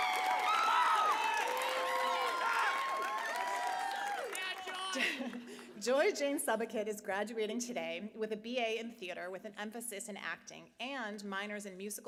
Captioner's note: applause